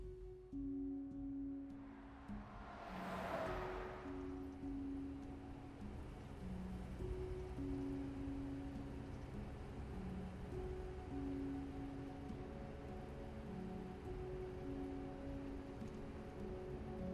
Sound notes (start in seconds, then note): 0.1 gentle music; 1.7 vehicle whirring past; 4.5 gentle music; 13.6 gentle music continues